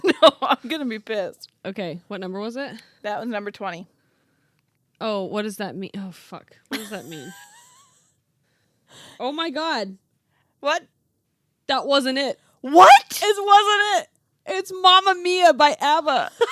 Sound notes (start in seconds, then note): 6.7 laughing